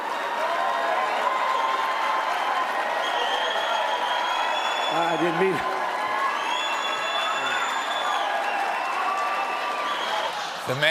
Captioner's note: applause